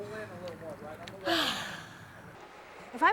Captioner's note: sighs